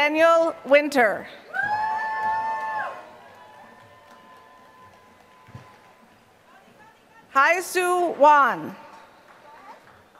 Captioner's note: applause